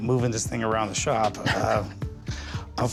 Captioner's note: chuckles